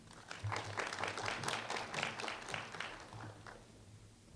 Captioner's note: applause